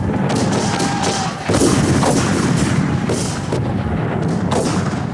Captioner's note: booming; shouting